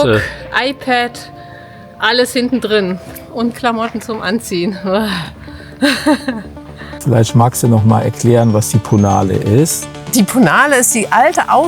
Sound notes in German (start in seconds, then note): 5.8 gelächter